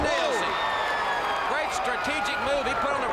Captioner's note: crowd cheering